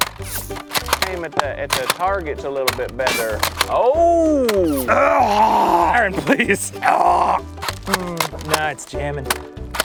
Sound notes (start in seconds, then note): 4.2 garbling for distraction